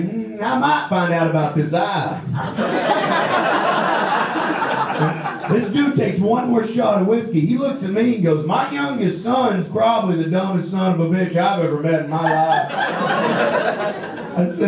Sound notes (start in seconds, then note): 2.2 audience laughs; 11.6 audience laughs